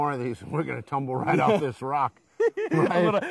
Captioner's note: laughing